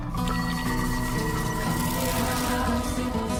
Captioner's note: blues guitar playing; magical vibrating